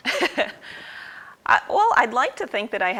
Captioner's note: laughs